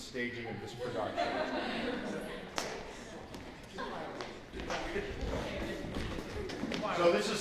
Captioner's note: laughter